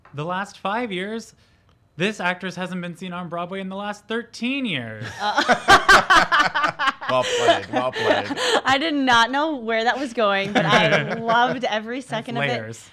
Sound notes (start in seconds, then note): 5.0 all laughing